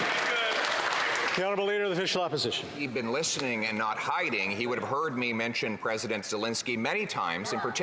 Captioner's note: some Applause